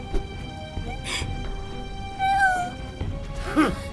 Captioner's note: through tears